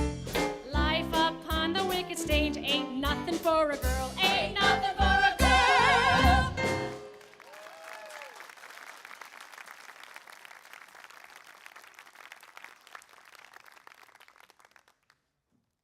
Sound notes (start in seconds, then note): 4.6 everyone singing; 7.1 applause